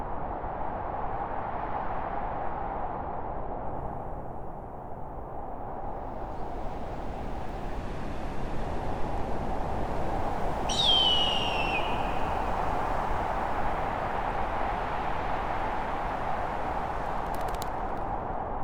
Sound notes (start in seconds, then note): 4.9 wind; 10.6 hawk calls again; 17.1 wings flapping